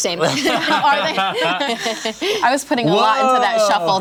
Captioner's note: laughter